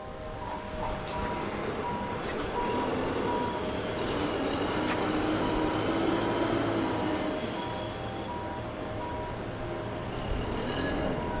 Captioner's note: sounds of the harbour and sea